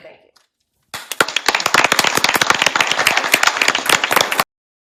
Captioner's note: applause